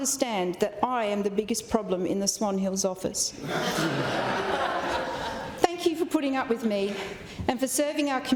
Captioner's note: laughter